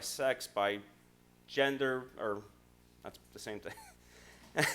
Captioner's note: laughs